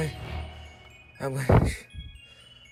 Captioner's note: heavy breathing after training